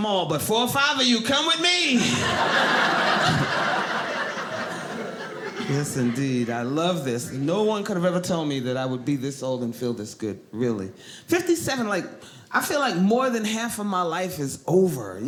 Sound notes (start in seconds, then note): 2.0 audience laughing